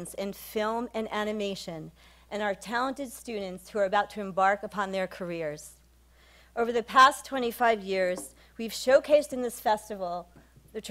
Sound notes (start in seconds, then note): none